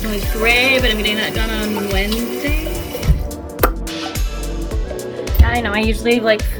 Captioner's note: mouth pop